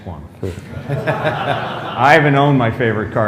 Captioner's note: laughter